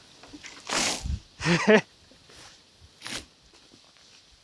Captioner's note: water splashing